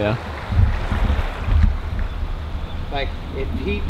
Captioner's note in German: Flusswasser fließt